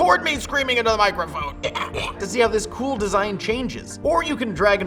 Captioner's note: gross cough